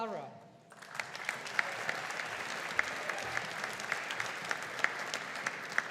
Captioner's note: audience applauding